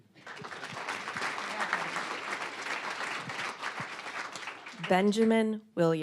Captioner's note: applause